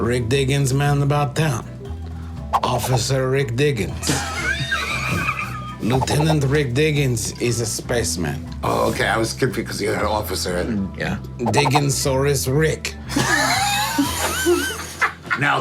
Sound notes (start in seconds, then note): 4.0 group laughing; 9.2 stutters; 13.7 group laughing